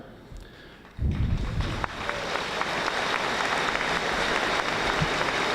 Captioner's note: audience applauding